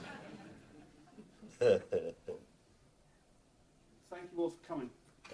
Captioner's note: audience laughs